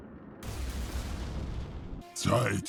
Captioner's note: boom